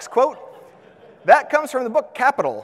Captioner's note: audience laughs